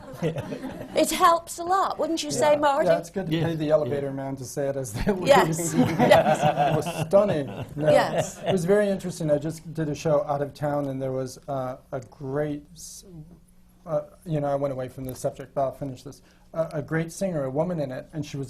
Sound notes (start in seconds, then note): 0.0 laughter; 5.7 laughter from the panel